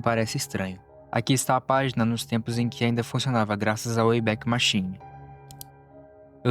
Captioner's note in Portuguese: click